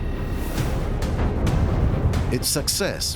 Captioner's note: explosion